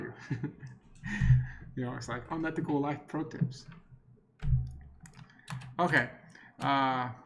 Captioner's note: chuckles